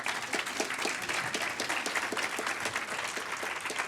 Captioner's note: audience applaud